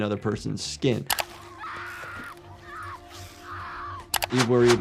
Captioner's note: people screaming